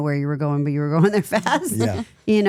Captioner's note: laughs